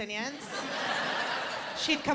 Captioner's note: laughter